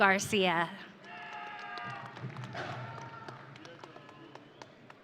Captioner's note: audience cheering